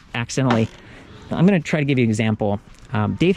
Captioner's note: clank